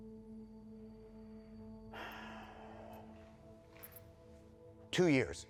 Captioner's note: Jim inhales and exhales